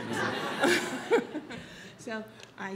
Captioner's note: audience laughs